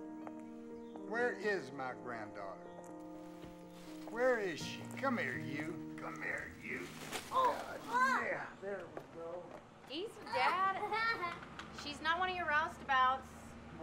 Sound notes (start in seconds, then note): 7.3 girl grunts